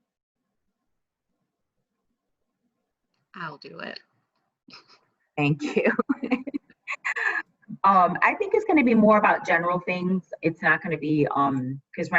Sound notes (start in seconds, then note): 5.6 laughter; 5.6 chuckles